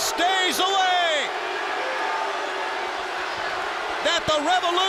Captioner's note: crowd chatter